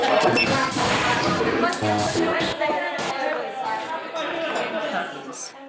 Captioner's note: whirring humming shouting screeching ebbing away shouting shouting ebbing ebbing